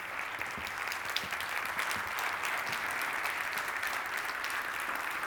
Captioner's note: audience applauding